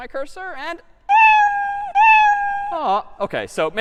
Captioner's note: meowing